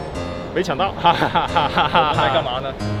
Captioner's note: awkward laughing